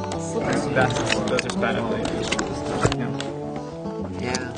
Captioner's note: group chatter